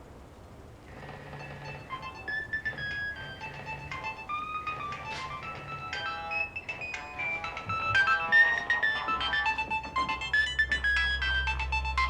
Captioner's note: phone Rings